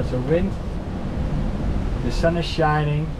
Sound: wind blowing

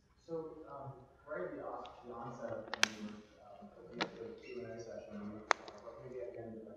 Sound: audience member talking in the background

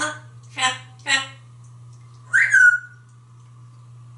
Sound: whistles

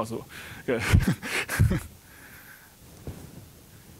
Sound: chuckling

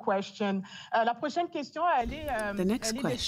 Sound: speaking French

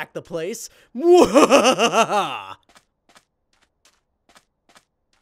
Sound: maniacal laughing

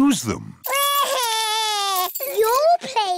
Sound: crying

